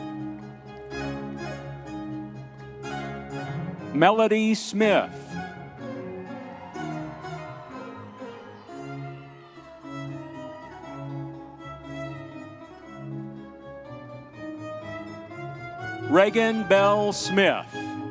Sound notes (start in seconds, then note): 5.9 audience members cheering